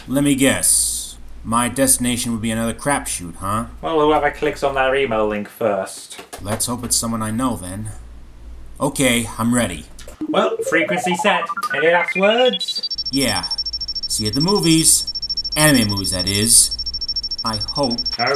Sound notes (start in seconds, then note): 10.2 electronic bleeping